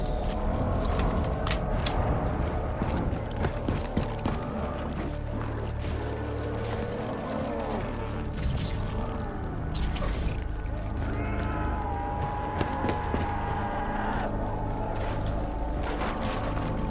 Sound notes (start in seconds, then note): 10.9 zombies screeching